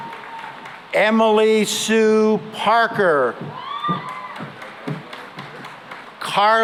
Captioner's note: cheering and applause